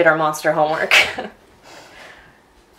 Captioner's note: chuckles